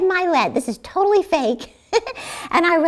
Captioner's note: chuckles